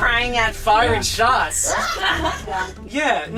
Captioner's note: laughter